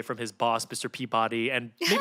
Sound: Felicia laughs

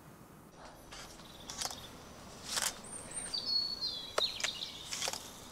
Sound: camera shutter clicks

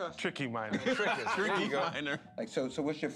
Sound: laughter

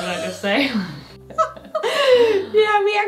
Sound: both laughing

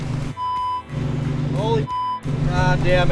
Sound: beep sound

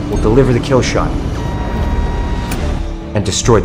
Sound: target lock beeps

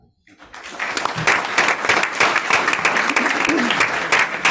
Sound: group applauds

